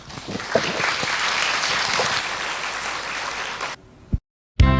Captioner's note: audience applause